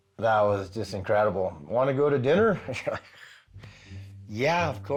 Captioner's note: chuckles